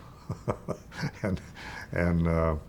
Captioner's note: chuckling